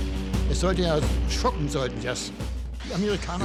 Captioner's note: speaking german